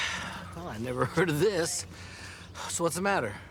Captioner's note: sighing